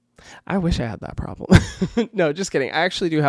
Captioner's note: laughs